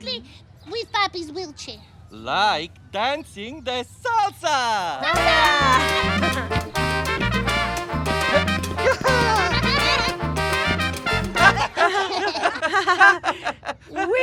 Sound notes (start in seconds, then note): 5.0 laughing; 5.1 upbeat music